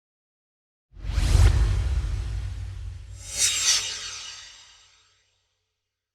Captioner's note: swoosh